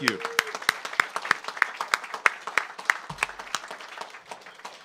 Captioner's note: audience applauds